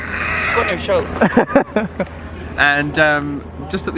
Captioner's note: laughs